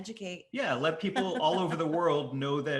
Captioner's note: laughing